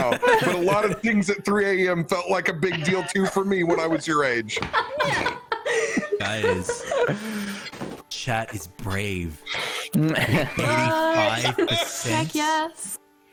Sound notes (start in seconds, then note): 4.5 joyful laughter; 9.9 laughs